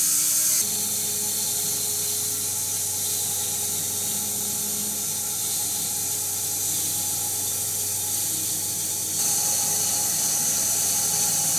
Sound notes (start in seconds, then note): 6.8 saw whirring continues